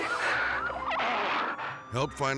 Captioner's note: sirens blaring